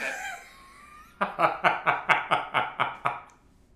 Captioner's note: laughs